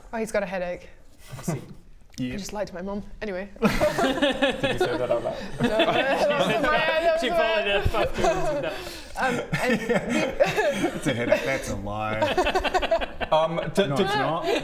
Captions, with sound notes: Oh he's got a headache I see I just lied to my Mum! Anyway *rebellious laughter* Did you say that out loud? No! That was in my head! That was in my head! She followed her bad doings with that Um and we It's a headache-that's a lie um did No it's not